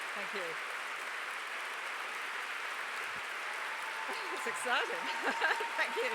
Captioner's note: applause; laugh